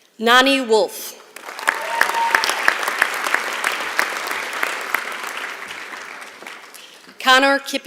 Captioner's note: applause